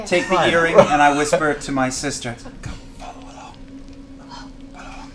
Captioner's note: whispers